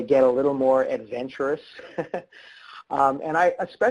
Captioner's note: laughs